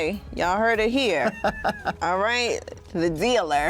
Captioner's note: laughs